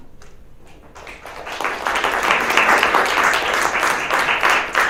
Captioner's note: audience claps